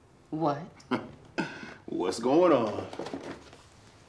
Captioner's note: chuckles